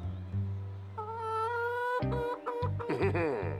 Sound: clucking softly; chuckles deviously

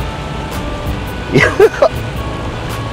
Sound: laughs

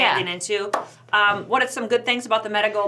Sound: hands clap

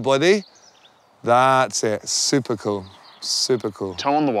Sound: breathes deeply

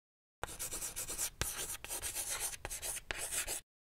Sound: chalk scratching

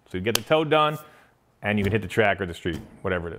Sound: none

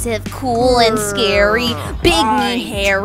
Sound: grrrrr!!

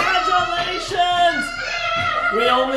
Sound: cheering

